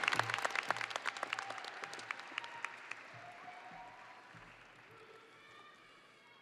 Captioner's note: audience applauding and cheering